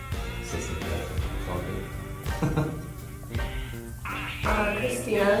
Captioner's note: chuckles